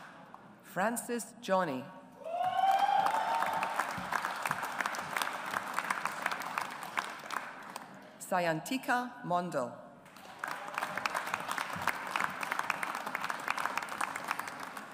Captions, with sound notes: Francis Johny. (AUDIENCE APPLAUDS) Sayantika Mondal. (AUDIENCE APPLAUDS)